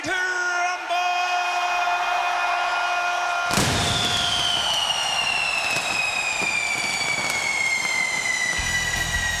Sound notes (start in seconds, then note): 3.4 fireworks exploding